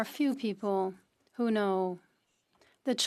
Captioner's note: speaking French